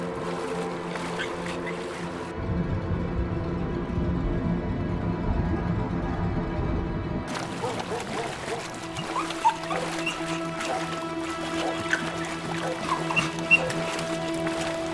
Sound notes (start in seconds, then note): 0.2 tense music; 7.3 dog barks; 7.3 dog whimpering; 12.0 water splashing